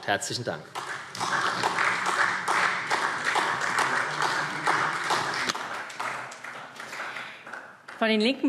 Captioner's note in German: Beifall SPD